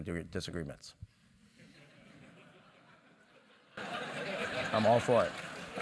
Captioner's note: laugh